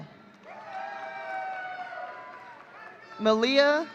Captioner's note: audience cheering